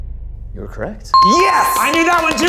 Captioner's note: tense music; bell rings